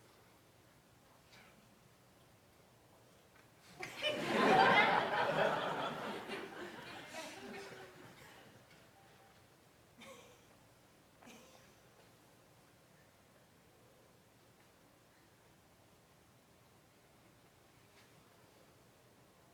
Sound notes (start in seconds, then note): 6.5 laughter